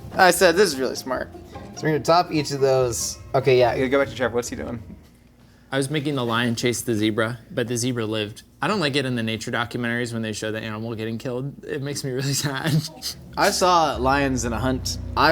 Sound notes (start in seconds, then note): 5.1 air whooshing; 12.2 chuckling